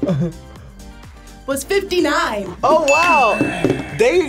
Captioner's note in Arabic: قرعات الجرس